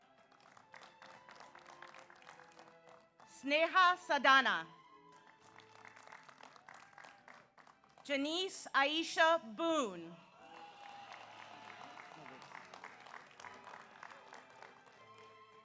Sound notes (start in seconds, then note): 0.0 audience applauds; 5.0 audience applauds; 10.2 audience applauds; 10.3 audience cheers